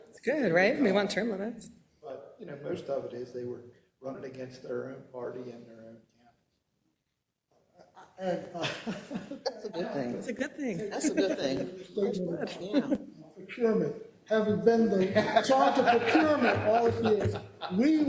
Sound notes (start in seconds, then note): 7.8 laugh; 14.6 laugh